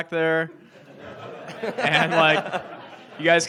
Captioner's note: audience laughs